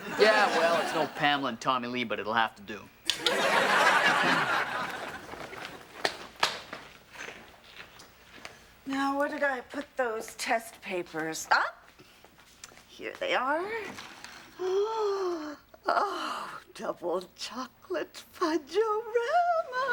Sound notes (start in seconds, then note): 3.1 audience laughing; 14.6 gasping